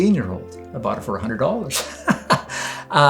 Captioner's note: laughs